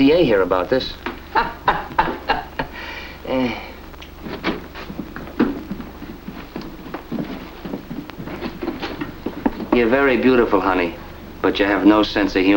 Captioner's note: laugh